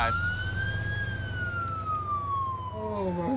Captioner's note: siren